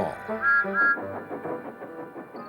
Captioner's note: toot toot